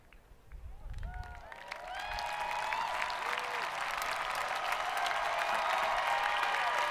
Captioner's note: hands clapping; people cheering